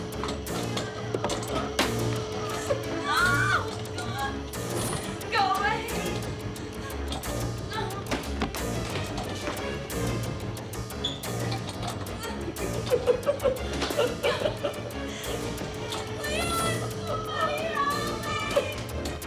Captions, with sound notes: OH, GOD ! GO AWAY. [ Cackling ] LEON, SOMEBODY, HELP ME !